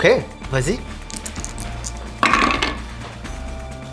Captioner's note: rolling dice